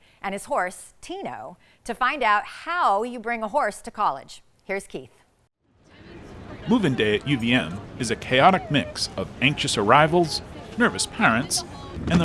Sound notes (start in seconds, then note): 5.8 students chattering